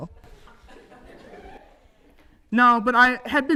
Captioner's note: audience laughs